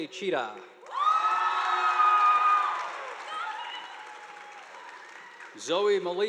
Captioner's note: students cheering; audience applauding